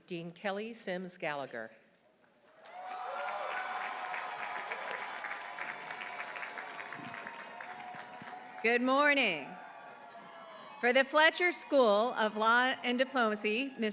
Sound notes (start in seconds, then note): 2.6 audience applauding; 2.8 audience cheering